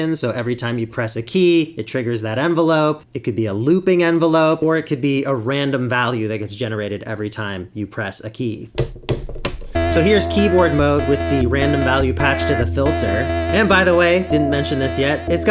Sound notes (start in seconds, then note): 8.6 clicking